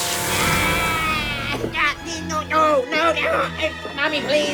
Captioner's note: yelling